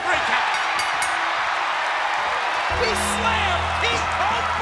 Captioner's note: bell ringing